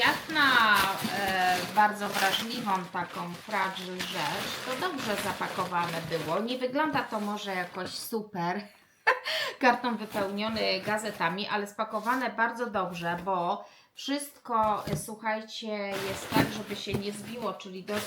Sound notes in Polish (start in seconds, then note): 9.0 śmiech